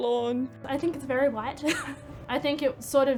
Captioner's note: laughs